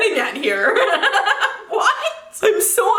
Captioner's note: giggles